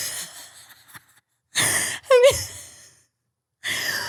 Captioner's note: laughs